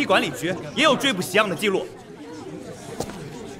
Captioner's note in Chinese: 议论纷纷的声音越发嘈杂